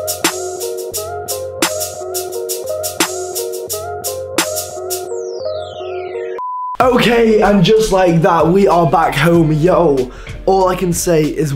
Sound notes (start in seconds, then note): 6.3 beep